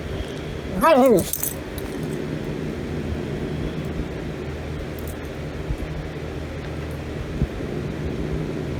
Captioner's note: Caprice continues growling; Ella growls